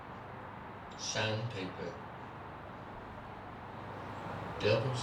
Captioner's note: voice continues through speakers